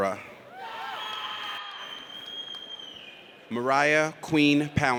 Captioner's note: audience cheers